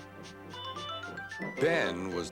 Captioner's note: hoots